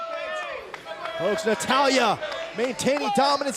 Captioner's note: crowd chatter